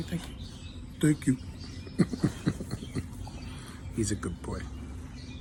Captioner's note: chuckles